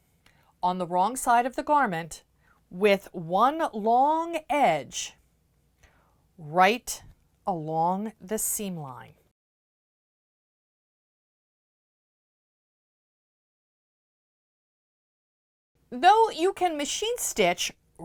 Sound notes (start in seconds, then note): 9.3 no Sound Present